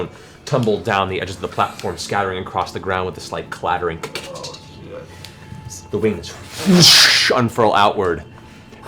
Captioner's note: whoosh